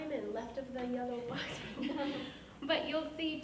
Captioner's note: laughing